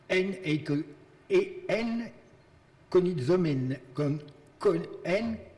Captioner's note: speaking in foreign language